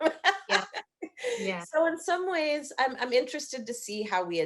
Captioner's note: laughing